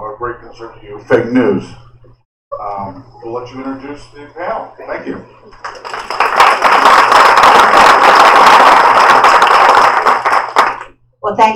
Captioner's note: applause